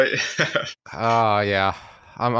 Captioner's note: laughs